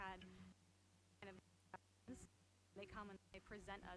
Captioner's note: stuttering audio